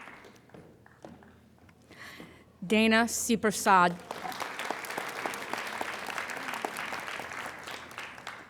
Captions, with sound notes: Dana Supersad. (applauding)